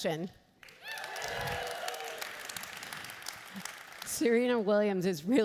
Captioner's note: applauding and cheering